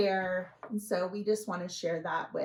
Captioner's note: none